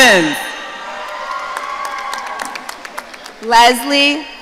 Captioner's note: audience cheering